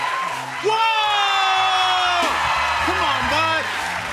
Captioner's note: audience cheering